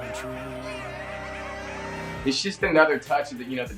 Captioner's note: coyotes barking